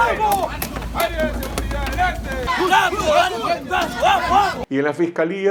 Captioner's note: riot police shouting